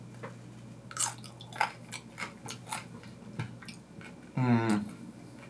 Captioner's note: vegetables crunching